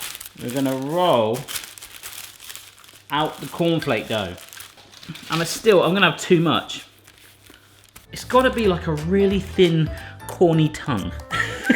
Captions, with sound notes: We're gonna roll out the corn flake dough. And still I'm gonna have too much. It's gotta be like a really thin corny tongue (laughs).